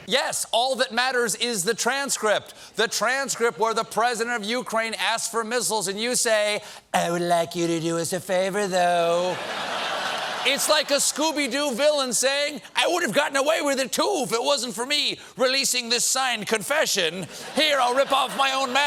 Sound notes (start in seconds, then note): 9.2 laughter